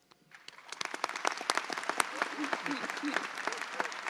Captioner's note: audience applauds